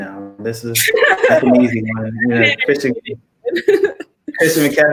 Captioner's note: laugh